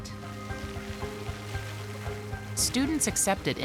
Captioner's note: water splashes